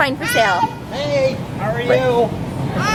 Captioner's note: toddler yelling